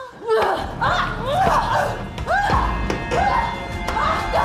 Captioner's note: both grunting